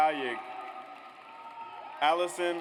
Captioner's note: audience applauds